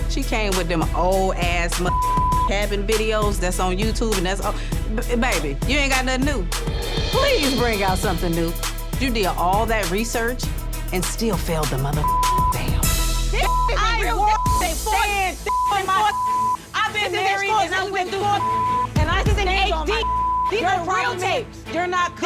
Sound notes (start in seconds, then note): 1.9 beep; 14.2 beep; 15.0 both yelling at once; 20.0 beep